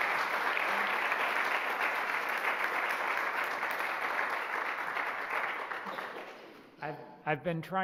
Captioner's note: applause